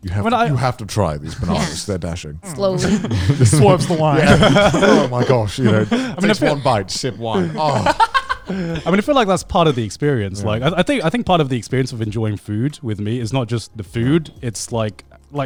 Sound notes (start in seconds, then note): 4.5 all laughing; 7.5 laughing